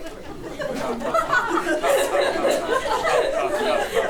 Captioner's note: chuckles